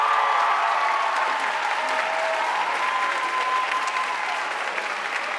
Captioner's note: audience cheering and applauding